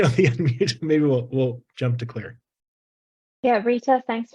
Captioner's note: laughs